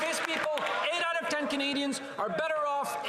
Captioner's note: applause